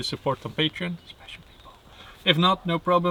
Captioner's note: whispers